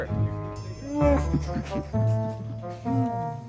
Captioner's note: Chewbacca sounds